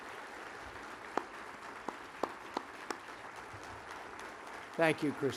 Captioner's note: applause